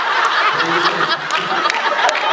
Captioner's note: laughs